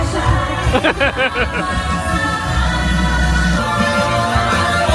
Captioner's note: laughing